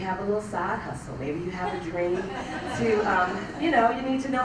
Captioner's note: laugh